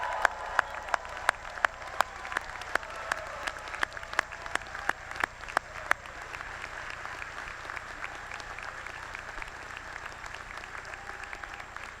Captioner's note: applause